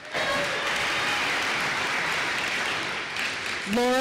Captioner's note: applause